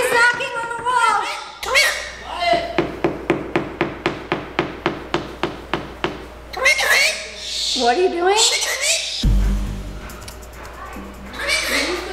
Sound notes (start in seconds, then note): 2.5 knocking; 6.5 bird squawking